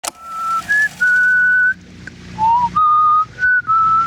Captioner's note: Brooke whistling